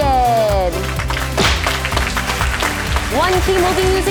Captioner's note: audience claps